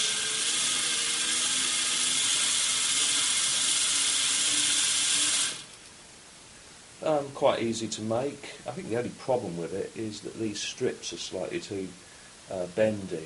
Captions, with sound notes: There it goes! [Motor stops] Quite easy to make. I think the only problem with it are these strips are slightly too bendy.